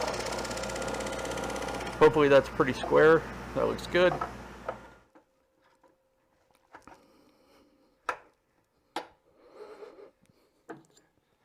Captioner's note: sawing